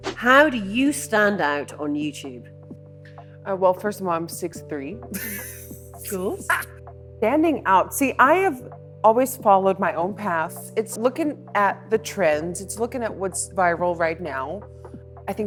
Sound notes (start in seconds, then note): 5.2 laughing